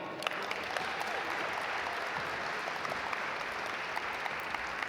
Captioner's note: audience applaud